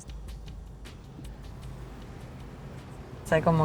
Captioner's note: car noises; ruidos de coches